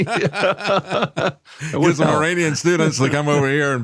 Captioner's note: laughing